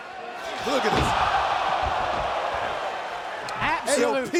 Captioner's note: fans cheering